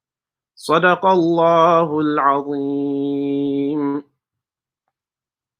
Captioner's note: praying in foreign language